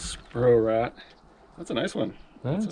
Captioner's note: fish thrashing